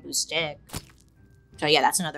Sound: stick thuds

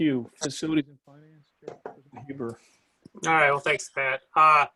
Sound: mutter

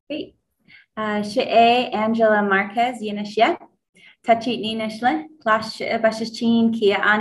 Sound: speaks in foreign language; foreign language continues

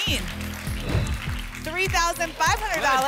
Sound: whoosh

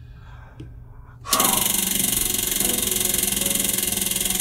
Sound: wheel spinning

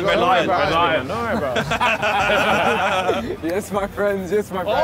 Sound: laughing

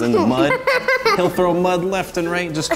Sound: giggling

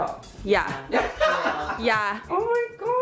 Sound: laughing

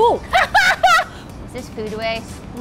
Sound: laughing

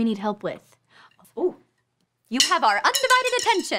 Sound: clattering

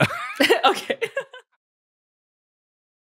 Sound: laughs

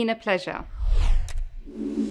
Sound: whooshing

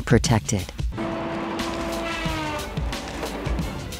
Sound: saw cutting tree

